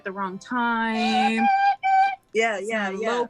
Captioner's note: high pitch whistling